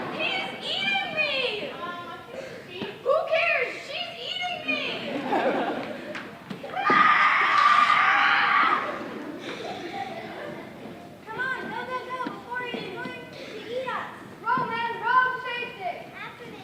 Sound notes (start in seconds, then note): 6.7 screaming